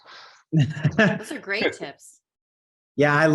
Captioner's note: chuckles